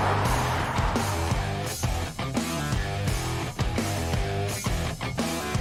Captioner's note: car whooshing